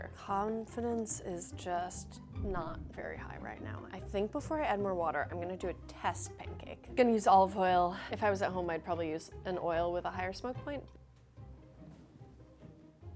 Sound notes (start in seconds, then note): none